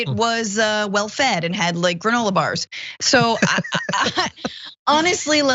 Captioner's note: laugh